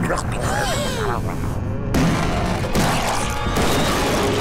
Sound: grumbling, gasping; thudding

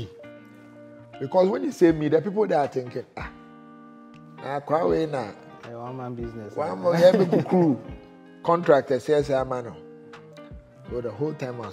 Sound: laughter

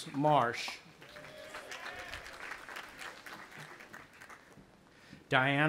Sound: audience applauding

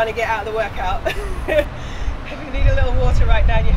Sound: laughs

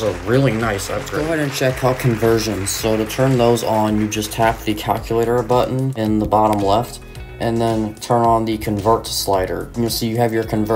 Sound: applause sound effect; applause continues briefly, then fades

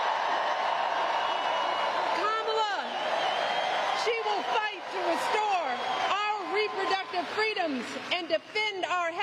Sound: applause

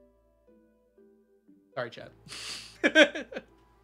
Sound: laughs

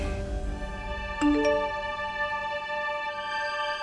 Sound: phone beeps

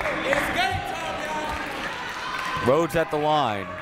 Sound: crowd talking

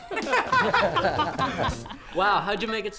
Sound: laughing

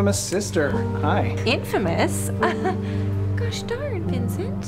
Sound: laughs

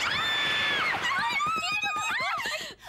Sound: screaming

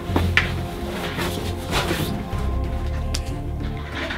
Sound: shuffling

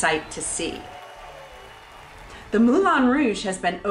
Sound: audience cheering

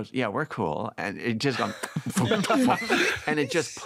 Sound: imitates pumping sound; all laughing

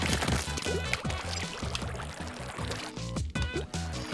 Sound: blorping; drip-drip; flowing water noise; bloop

